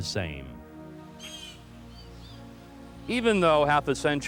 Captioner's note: bird squawks